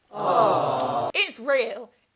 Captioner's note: people aweing